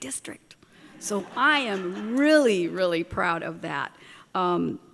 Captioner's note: laughter